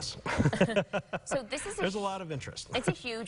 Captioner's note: laughing